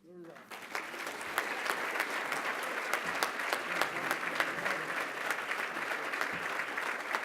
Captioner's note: applause